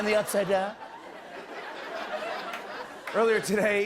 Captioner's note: laughter